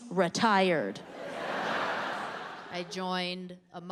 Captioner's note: audience laughing